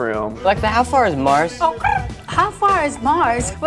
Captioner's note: chirping